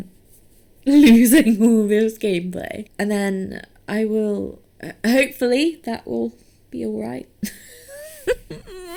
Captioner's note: whines